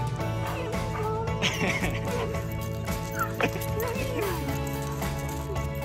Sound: dog whines; onlooker laughing; upbeat music

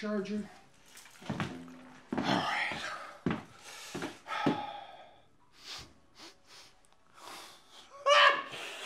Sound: sniffs

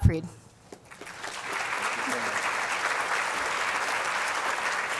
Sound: applause

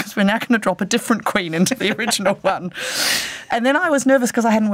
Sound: laughs

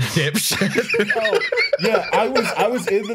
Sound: laughter

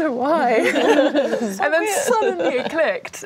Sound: laughing

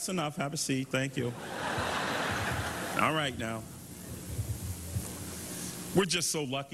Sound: applause

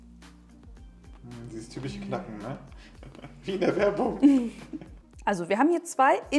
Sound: laughing

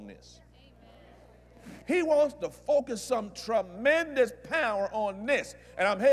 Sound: audience Agrees

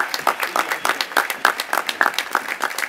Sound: applause

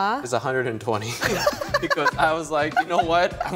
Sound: laughs

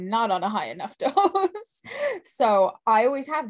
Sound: laughs

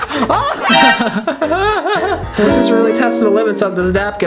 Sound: laughs

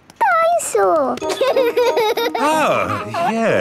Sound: giggles

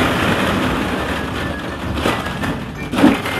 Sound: balls rolling

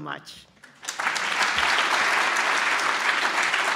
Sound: applause

